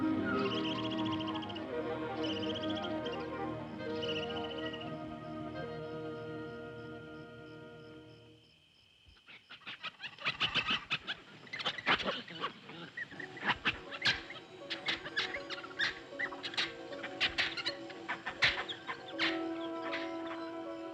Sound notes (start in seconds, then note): 0.0 whimsical music; 0.2 animal chittering; 5.1 whimsical music; 9.4 monkeys chittering